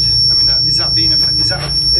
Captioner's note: beeping